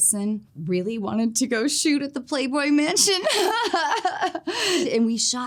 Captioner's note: laughs